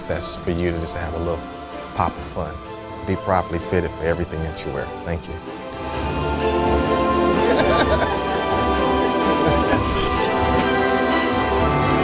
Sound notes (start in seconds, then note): 7.2 laughs; 9.2 upbeat music